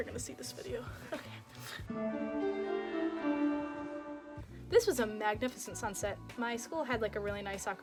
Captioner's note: ethereal sound effects